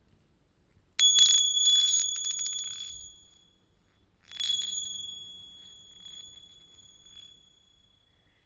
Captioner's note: bell rings